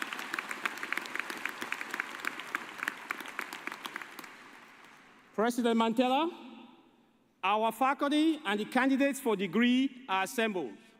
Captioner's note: applause